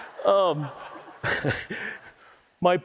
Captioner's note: laughter